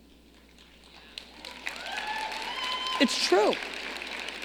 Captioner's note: audience clapping